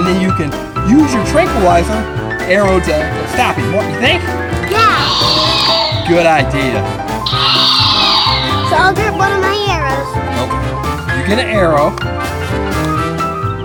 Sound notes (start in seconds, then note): 7.2 roars